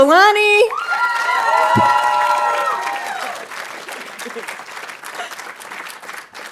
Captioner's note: audience cheering and applauding